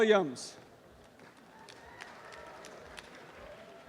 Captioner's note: applause